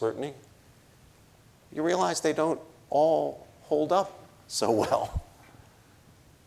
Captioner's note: chuckles